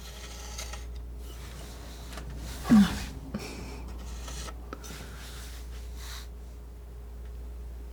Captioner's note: squeaking